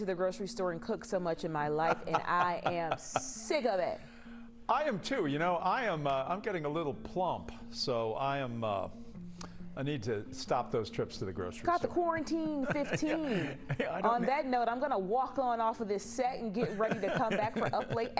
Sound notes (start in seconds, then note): 12.3 laughter